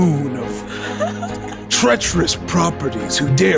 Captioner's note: giggles